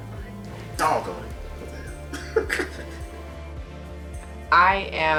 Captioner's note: laughs